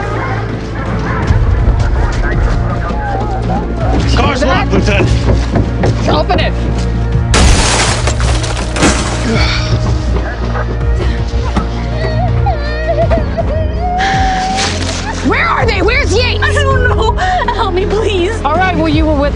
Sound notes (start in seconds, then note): 0.0 dogs barking; 11.4 whimpering